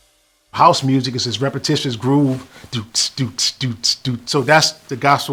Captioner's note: beatboxes